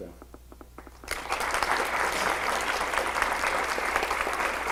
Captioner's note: audience applause